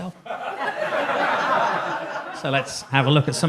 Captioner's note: audience laughs